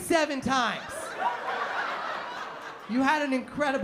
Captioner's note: laughter